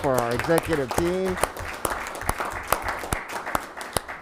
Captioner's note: applauding